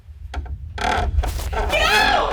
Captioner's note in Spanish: tablas del suelo crujiendo